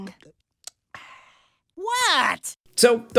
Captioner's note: sighs